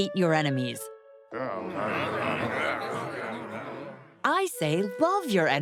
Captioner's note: grumbling